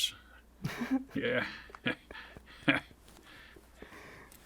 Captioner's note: chuckles; interviewer chuckles